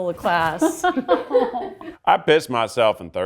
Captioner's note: laughs sadly